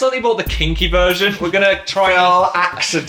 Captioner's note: laughs